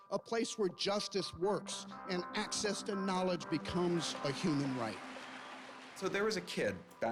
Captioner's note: applause